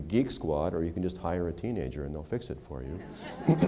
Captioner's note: laughter